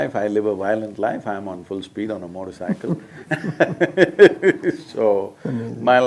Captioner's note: both laugh